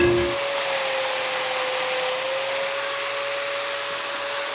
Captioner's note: cutter whirring continues